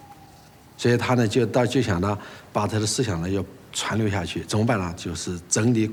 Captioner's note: hablan un idioma extranjero